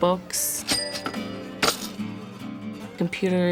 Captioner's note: cash register rings